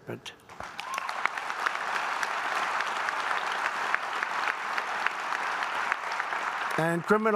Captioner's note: applause